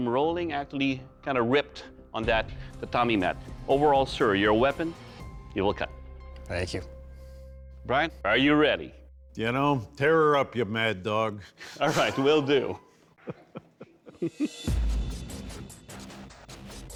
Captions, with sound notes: actually kinda ripped on that tatami mat. Overall, sir, your weapon... -it will cut. -Thank you. Bryan, are you ready? You know, tear her up, you mad dog. [laughs] All right, will do. [chuckles] [tense music playing]